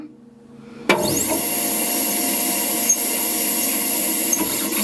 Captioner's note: machine whirs